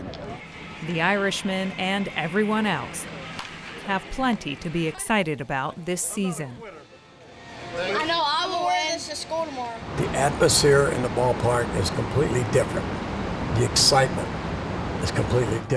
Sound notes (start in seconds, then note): 7.8 child talking